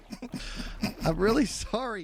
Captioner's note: snicker